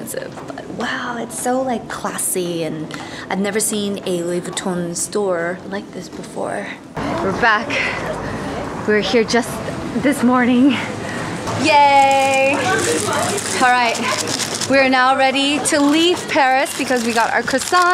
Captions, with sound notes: Wow. It's so like classy and I've never seen a Louis Vuitton store like this before. We're back. We were here just this morning. *Breathing intensifies* Yaaaay! Alright. We are now ready to leave Paris because we got our croissants.